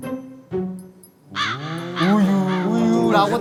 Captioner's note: group “woo-woo” again